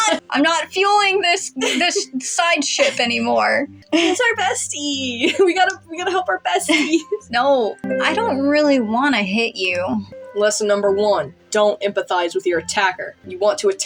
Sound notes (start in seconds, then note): 0.0 laughing; 1.5 laugh; 3.9 chuckle; 6.6 giggle; 6.6 chuckle